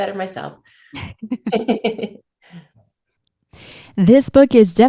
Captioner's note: both chuckle